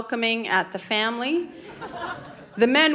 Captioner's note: audience laughing